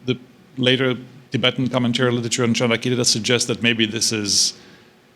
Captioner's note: non-english